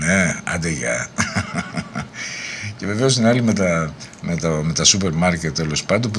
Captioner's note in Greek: γέλια